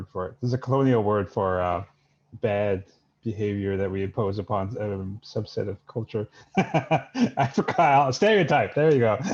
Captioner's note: laughs